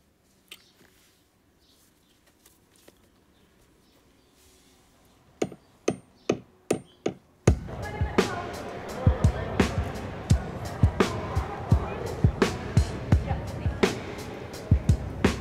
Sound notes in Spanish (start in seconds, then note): 6.6 martillazos